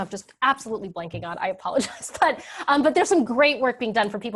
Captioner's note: laughs